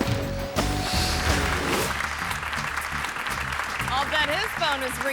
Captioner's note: air whooshes; audience clapping